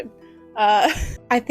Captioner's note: laughter